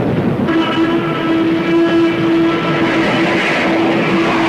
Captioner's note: explosion booms; plane whooshing